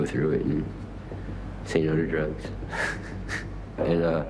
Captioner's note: chuckling